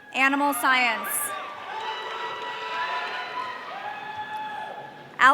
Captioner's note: audience cheering